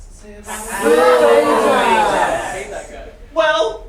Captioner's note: boos and hisses